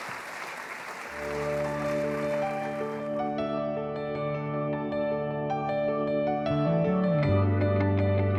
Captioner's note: applause